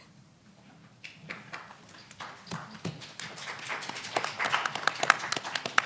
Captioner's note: audience applauding